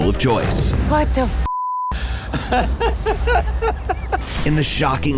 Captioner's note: laughs